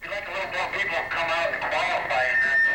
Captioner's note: distorted speaker; microphone sqeels; laughing